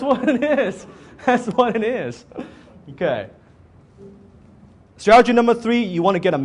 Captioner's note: laughing; laughs